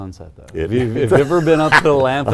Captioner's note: laughs